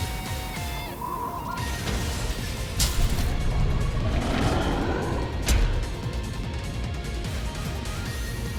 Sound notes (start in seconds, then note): 3.4 Digimon roaring